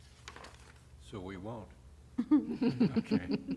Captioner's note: laughter